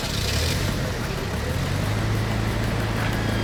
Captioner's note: vehicle starting